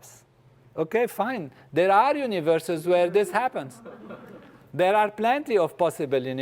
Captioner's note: laugh